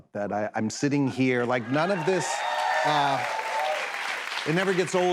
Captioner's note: cheers and applause